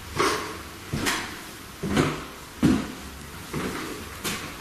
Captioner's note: footsteps thumping